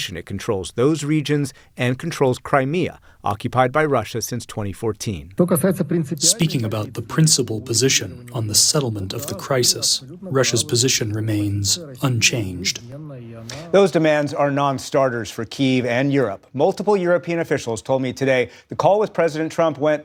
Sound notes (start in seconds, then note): 6.7 through translator